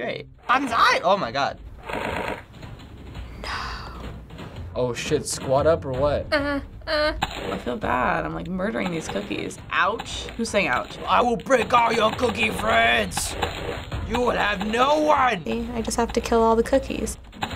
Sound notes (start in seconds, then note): 1.6 cookies rattle; 3.5 whispers; 6.4 whimpering